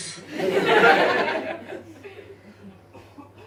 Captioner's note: audience laughs